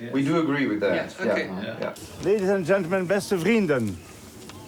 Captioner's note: speaking in foreign language